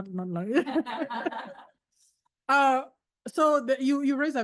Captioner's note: laughs